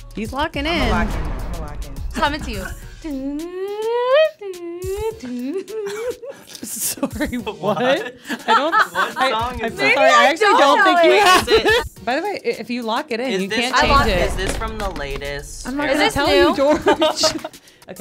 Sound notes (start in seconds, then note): 3.6 shakes voice comically